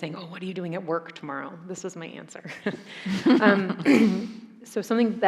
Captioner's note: chuckles